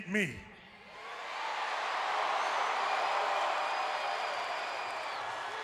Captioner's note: crowd cheering